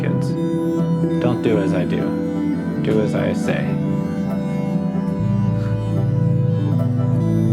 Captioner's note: laughs